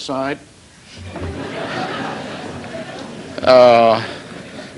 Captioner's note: laughter